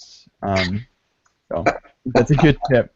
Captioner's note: chuckles